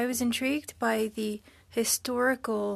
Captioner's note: speaking French